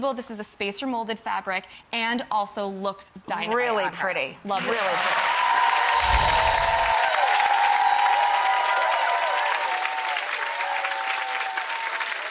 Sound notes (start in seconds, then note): 5.5 crowd claps and cheers; 5.9 chimes jingle